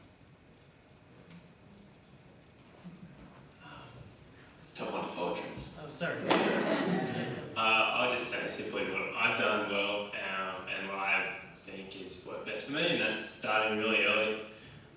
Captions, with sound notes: - That's tough on vultures. - Oh sorry. (claps) (laughter) - I just know that simply, look, I've done well. And what I think has worked best for me and that is starting really early,